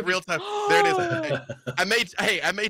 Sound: gasps

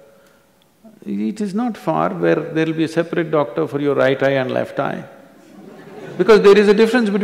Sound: few laugh

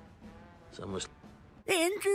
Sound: Faint Whisper Of Hank

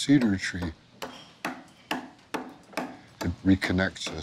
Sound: hammer banging

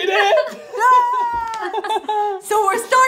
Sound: cheers

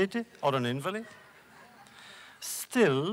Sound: laughs; laughter

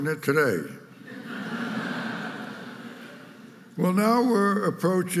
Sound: audience laughing

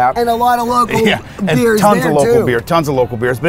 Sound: laughing

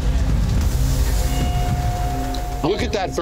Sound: meat sizzles

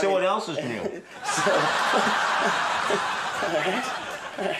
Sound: audience laughs

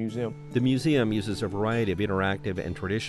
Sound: voiceover

